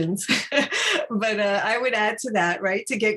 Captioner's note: chuckles